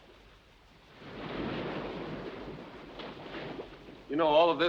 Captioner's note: waves crashing